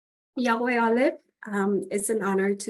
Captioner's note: speaks in foreign language